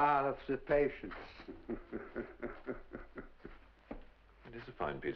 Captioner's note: chuckles